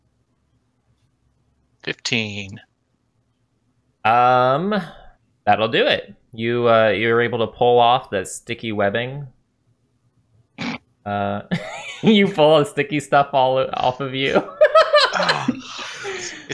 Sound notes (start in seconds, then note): 10.3 snort laugh; 14.3 laughter